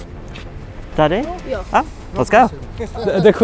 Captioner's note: child speaking in foreign language; speaking in foreign language